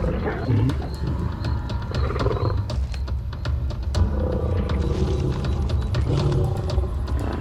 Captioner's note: lions groaning; dramatic music